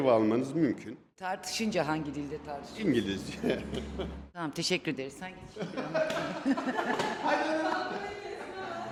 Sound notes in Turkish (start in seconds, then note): 5.5 kahkaha